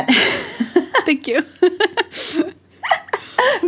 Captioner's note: both laugh